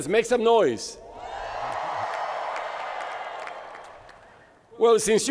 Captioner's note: crowd cheering